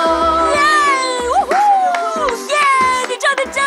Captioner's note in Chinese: 歡呼聲